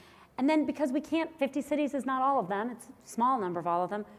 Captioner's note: none